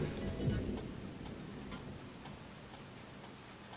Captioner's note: thunder rumbles